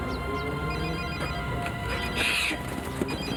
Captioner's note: ominous music; phone ringing